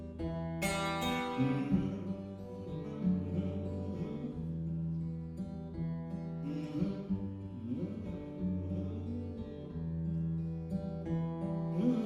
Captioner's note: humming